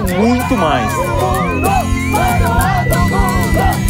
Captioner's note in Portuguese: todos gritam